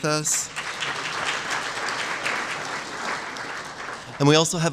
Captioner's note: applause